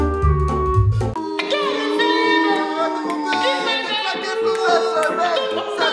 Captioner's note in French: le public siffle